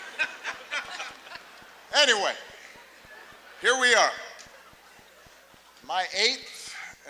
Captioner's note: laughter